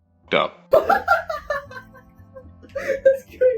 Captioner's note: laughing